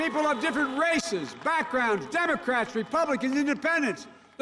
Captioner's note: cheering and applause